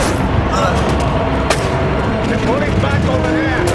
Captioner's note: grunting